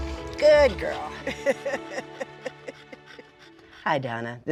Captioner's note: laughs